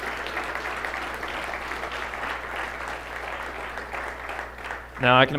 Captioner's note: applause